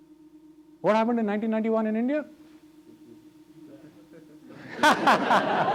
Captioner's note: laughter